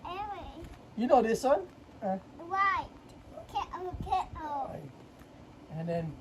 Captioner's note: chatters